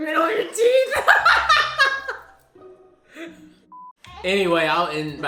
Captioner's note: laughing loudly